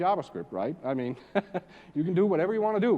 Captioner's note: laugh